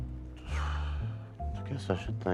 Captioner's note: exhales